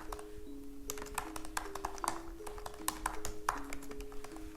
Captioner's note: keyboard clacks